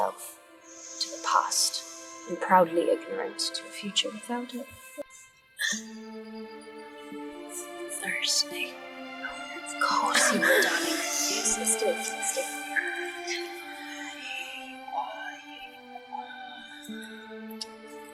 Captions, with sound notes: Blinded by itself to the past, and proudly ignorant to a future without it-- [Sounds of breathing as Mia wakes] Thirsty... Of course you are darling.